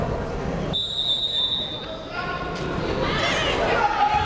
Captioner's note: whistle blaring